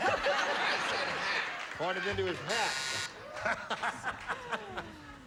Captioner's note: laughing